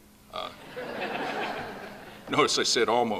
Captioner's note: laughing